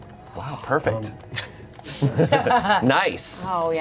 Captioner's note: everyone laughs